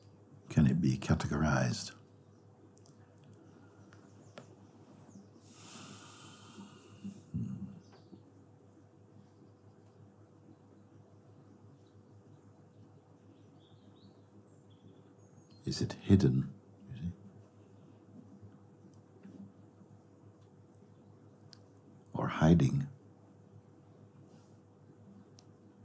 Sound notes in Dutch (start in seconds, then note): 5.7 stilte